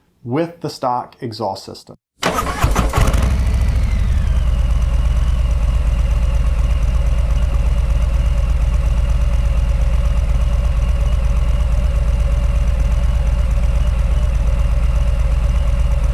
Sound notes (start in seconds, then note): 3.0 engine roaring